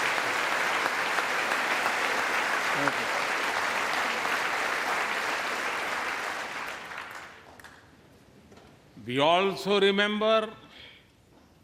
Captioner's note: applause